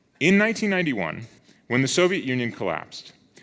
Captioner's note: none